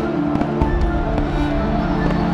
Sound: fireworks launching

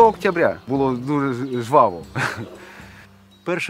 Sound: laughs

